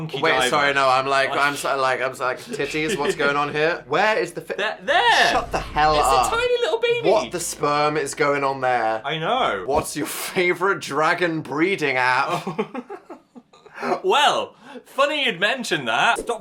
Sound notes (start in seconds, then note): 12.2 both laughing